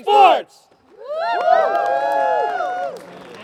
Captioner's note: cheering